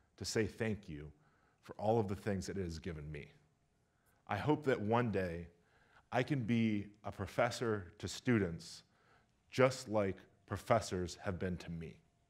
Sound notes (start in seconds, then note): none